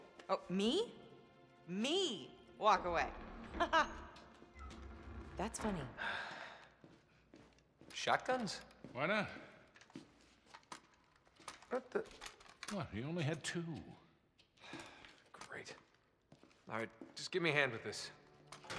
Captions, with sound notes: Oh, ME? ME.. walk away? Ha ha! That’s funny. Shotguns? Why not? What the... What? He only had two. (sigh) Great. Alright, just give me a hand with this.